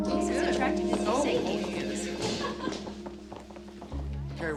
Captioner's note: phone ringing